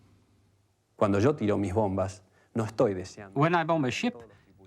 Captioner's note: man speaking in foreign language